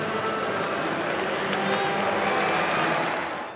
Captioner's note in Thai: เสียงปรบมือ